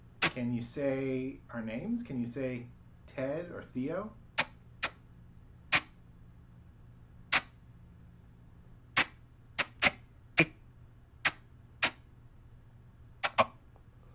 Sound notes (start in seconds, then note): 6.1 intermittent static